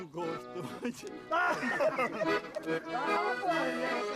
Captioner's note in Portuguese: todos rindo